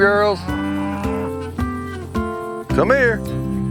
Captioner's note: cows mooing